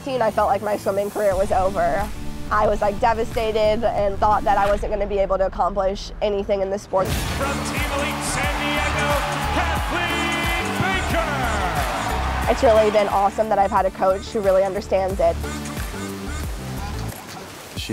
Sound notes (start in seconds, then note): 11.3 cheering